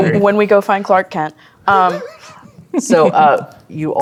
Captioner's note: laughing